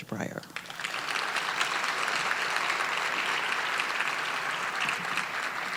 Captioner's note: audience applauding